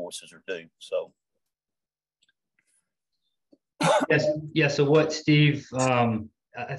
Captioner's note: cough